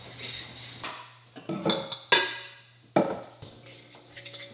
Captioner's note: glasses clanking